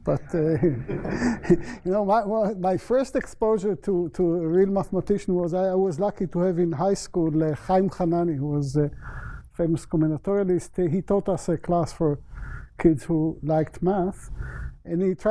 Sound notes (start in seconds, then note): 0.1 laughter; 7.3 non-english